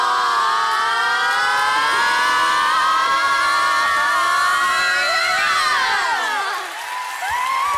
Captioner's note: clapping, cheering